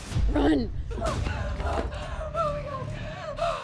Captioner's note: panting